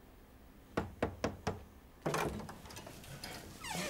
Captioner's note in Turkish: kapi çaliyor